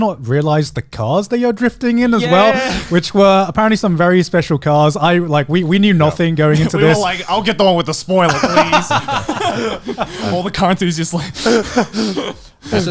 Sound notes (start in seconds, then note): 8.1 laughing